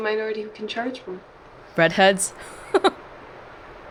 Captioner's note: chuckles